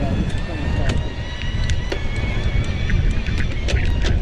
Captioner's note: motor roars